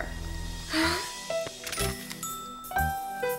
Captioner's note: camera shutter clicks